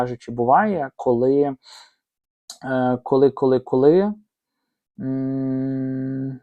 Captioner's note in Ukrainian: сопіння